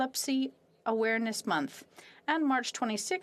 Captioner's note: speaking French